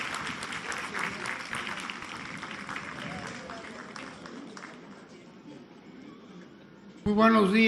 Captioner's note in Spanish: aplausos